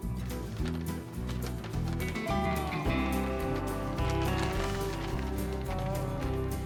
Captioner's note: paper crinkling